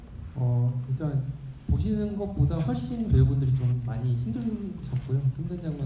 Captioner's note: speaking in foreign language